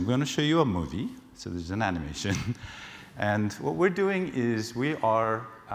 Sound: laugh

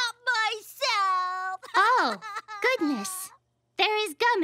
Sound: Angelica crying

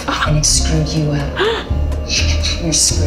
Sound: gasp

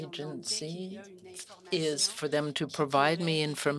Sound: speaking French

